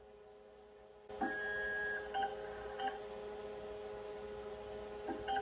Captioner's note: hard drive noises intensify